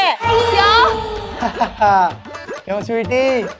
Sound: laughing

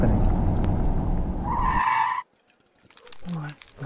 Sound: truck stops suddenly

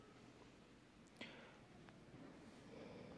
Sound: none

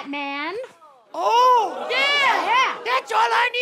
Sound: high-pitched voice

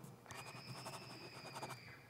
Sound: pencil scratches; distant scream

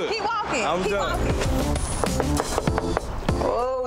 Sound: upbeat hip hop music; knocking on door

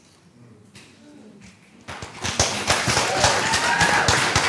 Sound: applause

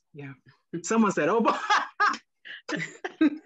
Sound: laughs

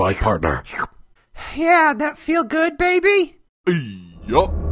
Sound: sucking and slurping noises in background

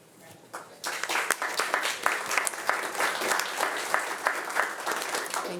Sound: audience applauding

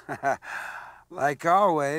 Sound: Skywalker inhales

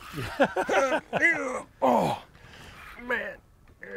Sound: grunts

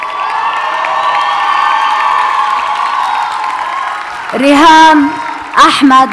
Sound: audience cheers and applauds

